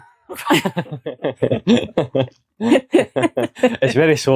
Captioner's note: laughter